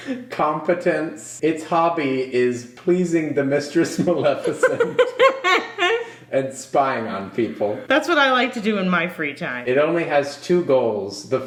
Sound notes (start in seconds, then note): 3.9 laughing